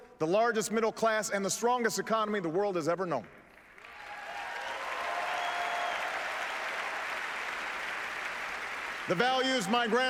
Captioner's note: applause